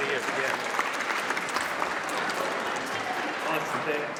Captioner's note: audience applauds